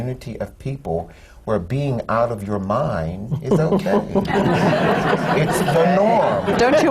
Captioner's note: laughter